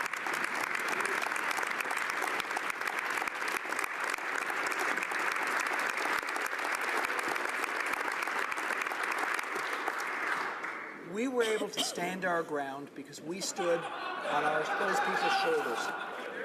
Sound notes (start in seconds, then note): 3.0 applause